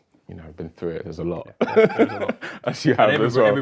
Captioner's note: laughing